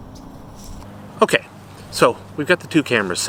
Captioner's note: traffic rumbling